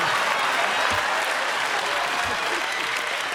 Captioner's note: cheers and applause